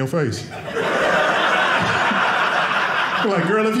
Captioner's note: audience laughing